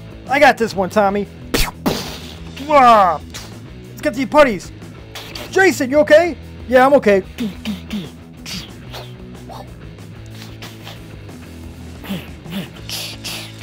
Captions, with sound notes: I got this one Tommy! Let's get the Putties! Jason you okay? Yeah, I'm okay. (whisping air and fighting grunts)